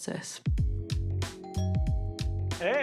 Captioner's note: doorbell rings